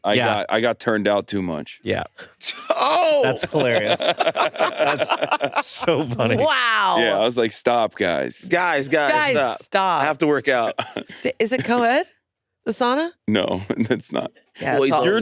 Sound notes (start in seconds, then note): 3.0 all laughing